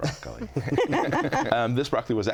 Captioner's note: laughing